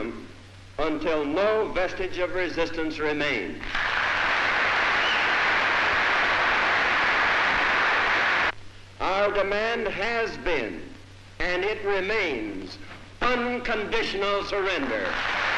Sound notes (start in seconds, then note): 3.6 applause